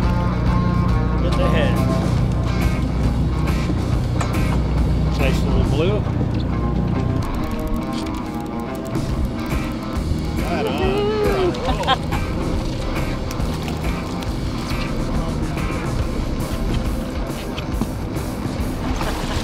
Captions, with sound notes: - In the head. Nice little blue. (fishing rod reels) - Woo-hoo (laughs). - Right on, you're on a roll.